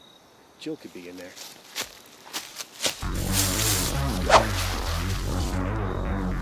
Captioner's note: whip